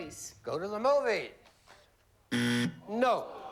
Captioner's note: buzzer